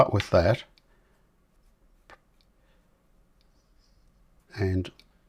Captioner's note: silence